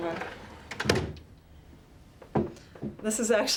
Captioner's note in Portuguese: gaveta fechando